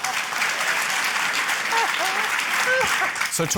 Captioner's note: applause